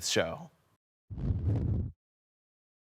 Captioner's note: silent; whoosh